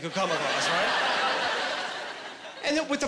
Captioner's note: laughing